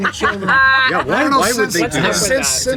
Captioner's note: group laughs